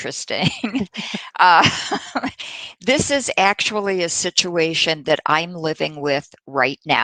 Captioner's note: laughter